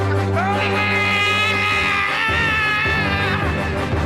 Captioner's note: screams